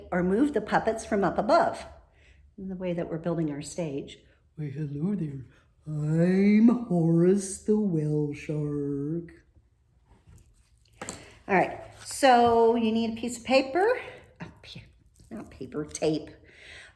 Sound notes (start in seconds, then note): none